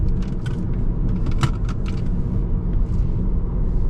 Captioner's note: engine rumbling